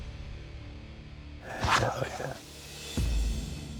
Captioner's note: whispers